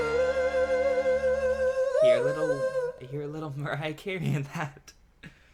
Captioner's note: laughs